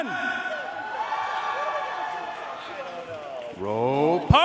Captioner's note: audience cheering and applauding